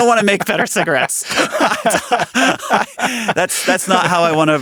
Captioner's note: laughing